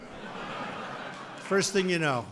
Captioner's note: laughter